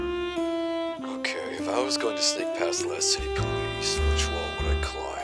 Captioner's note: Specialist muttering